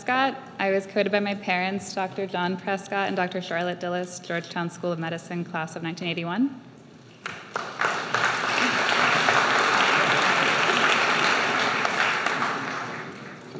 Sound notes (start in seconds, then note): 9.0 applause